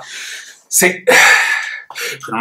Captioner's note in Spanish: suspira